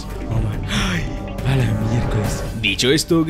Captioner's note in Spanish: Suspiro